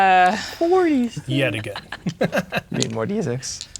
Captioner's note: laughing